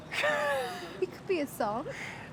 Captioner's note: laughing